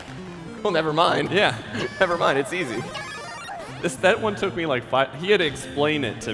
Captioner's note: applause; laughter